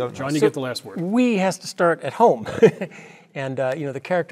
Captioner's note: laugh